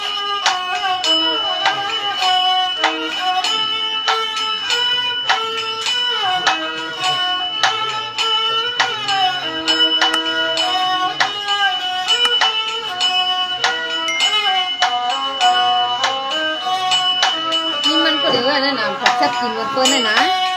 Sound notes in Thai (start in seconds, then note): 0.3 ปรบมือ; 6.7 ปรบมือ